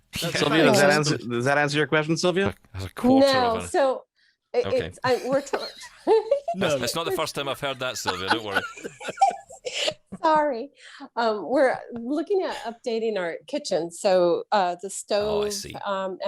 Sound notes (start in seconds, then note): 5.0 laughs